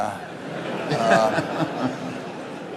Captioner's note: laughter